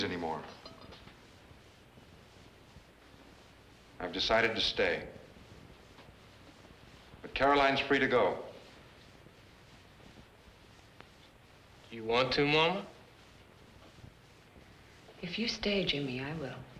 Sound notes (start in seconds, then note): none